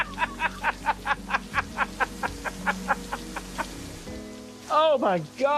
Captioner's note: continues laughing uproariously